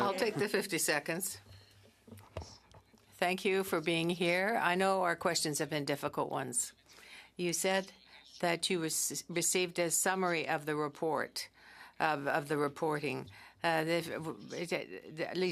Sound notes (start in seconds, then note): 6.6 speaking French